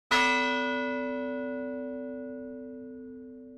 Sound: bell tolls

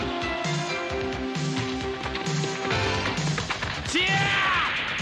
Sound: applause

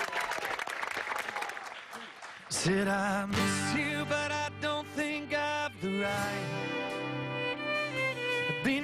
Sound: applause

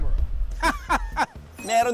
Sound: laughs in victory

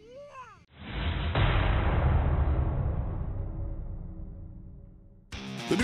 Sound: metal clash

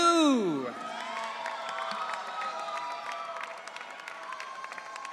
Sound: audience cheering

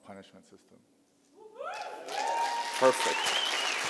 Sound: applause

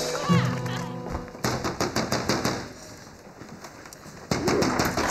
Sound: door banging

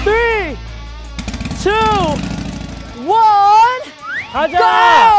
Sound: starting their engines

